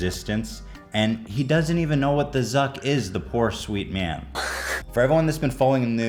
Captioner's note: Zucc hiss